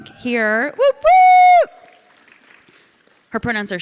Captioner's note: audience cheering; audience clapping